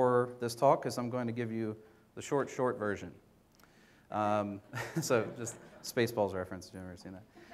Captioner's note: audience laughter